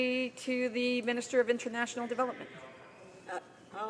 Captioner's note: speaking French